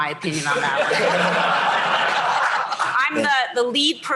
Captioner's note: laughter